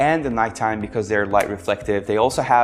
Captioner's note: hands clapping